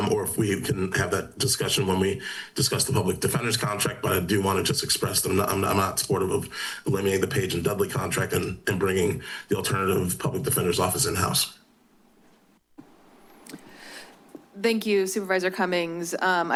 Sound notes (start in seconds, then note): none